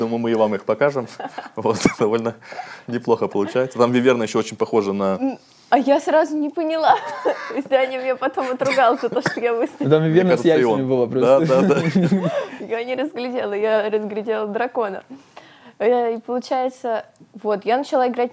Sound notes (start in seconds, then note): 3.3 laughs; 6.8 laughs